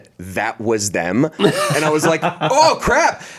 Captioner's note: laughs